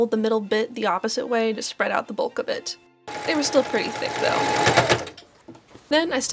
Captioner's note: sewing machine sounds, kerchunk